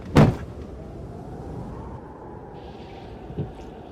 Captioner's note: wind howling